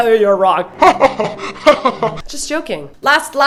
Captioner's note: evil laughter